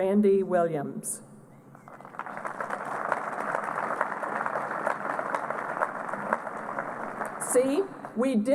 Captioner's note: applause